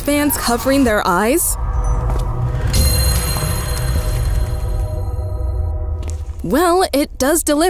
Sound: footstep sounds

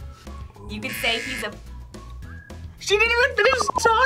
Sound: buzzer

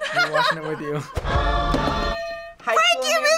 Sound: bell rings

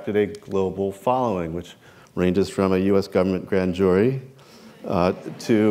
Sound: laughter

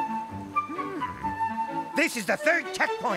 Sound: gasping

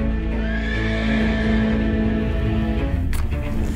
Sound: horse whinnying; flames crackling

